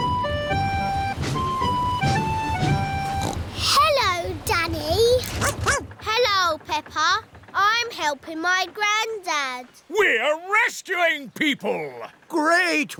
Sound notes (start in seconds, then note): 3.0 snorts; 5.4 barks